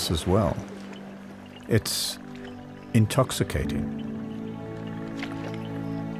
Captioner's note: animals calling